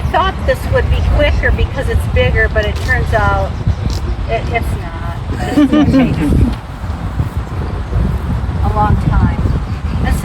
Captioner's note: laughter